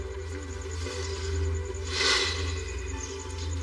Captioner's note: sighs